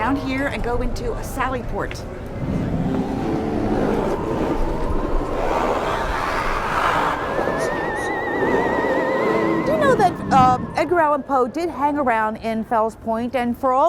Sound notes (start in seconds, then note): 2.4 spooky sounds